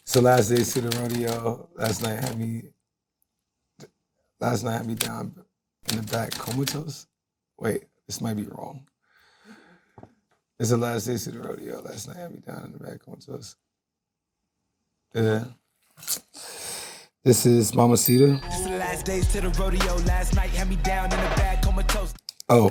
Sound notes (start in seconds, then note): 17.9 bell dings